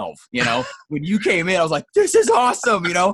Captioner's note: laughs